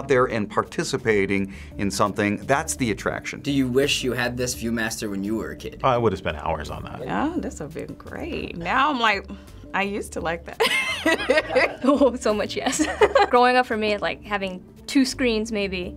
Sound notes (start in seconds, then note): 10.6 giggles; 10.7 laughs